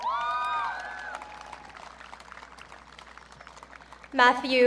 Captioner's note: audience cheering